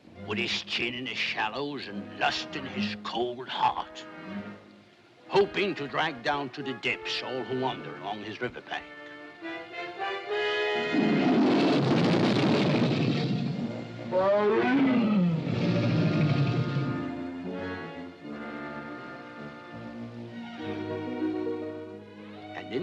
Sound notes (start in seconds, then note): 10.9 crocodile roars; 10.9 suspenseful music; 13.0 crocodile growls; 13.2 bear growls; 18.2 ominous music